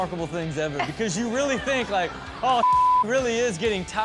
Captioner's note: beep